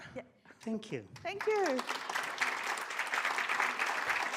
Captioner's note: audience applauds